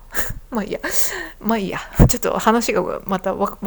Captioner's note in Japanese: 鼻息